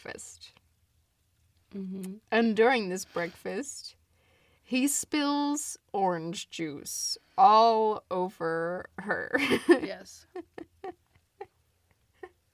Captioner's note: laughs